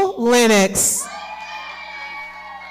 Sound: audience cheering and clapping

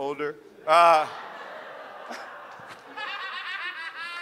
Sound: audience laughs

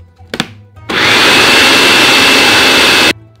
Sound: food processor running

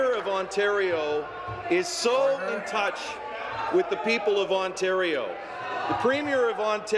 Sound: applause

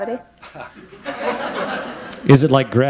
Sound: laughter

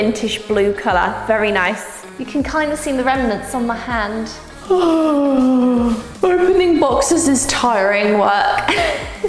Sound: yawns

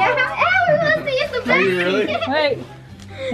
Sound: laughs

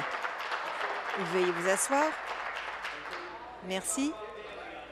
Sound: applause

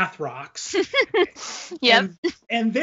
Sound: laughs

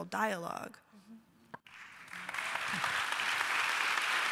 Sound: applause

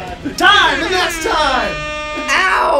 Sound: air horn blasts; buzzer blares

